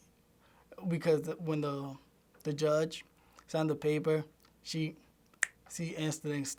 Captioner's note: snaps fingers